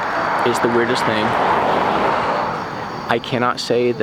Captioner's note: engine revving